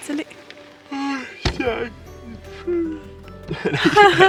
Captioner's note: yawning